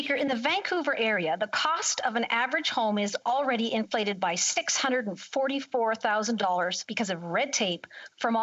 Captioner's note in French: voix de l'interprète